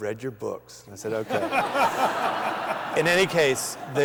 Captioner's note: laughter